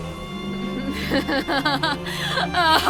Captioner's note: evil laughter